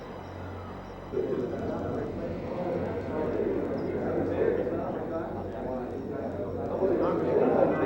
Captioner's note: crowd murmuring; eerie music